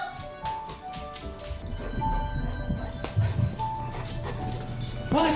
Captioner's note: panting